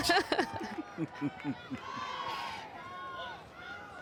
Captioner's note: both chuckle